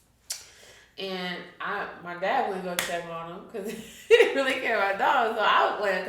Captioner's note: chuckles